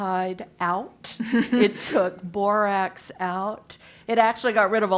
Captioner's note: laugh